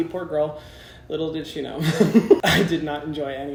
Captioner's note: laughs